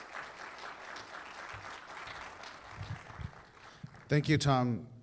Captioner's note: applause